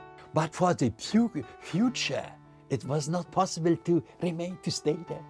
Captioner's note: with German accent